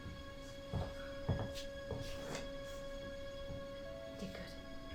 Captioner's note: footsteps